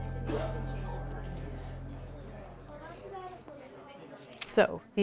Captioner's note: enrollees chattering